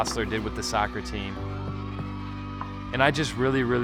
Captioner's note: crowd cheers